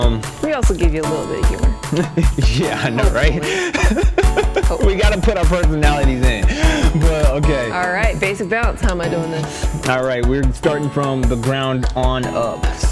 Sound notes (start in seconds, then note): 3.7 laughs